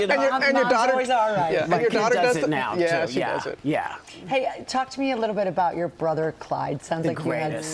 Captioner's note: laughter